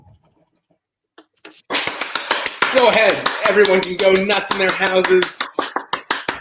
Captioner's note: applause